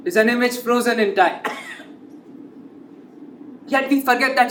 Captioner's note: coughs